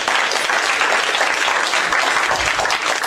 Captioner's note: applause